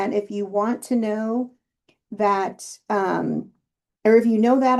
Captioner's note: none